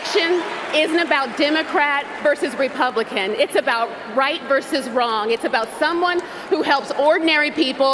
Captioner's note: cheers and Applause